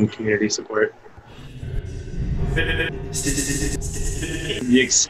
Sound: low drone sound with intermittent "s" sounds

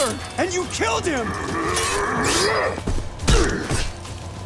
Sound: grunting

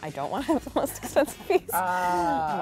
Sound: laughs

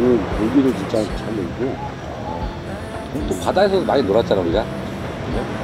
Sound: swimming

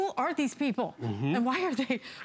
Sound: laughter

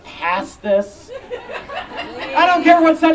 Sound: audience Laughing

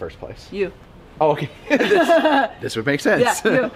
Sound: both laugh

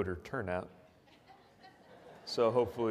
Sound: audience laughs

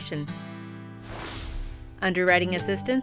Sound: whooshing

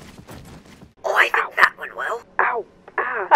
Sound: repeating 'ow'

